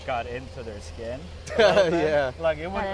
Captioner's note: laughs